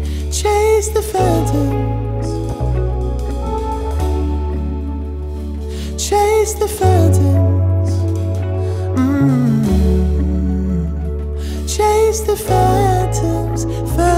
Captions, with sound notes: Chase the phantoms Chase the phantoms mmm (hummed) Chase the phantoms